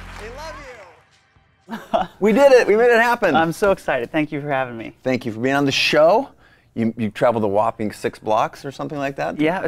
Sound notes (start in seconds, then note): 1.6 laughs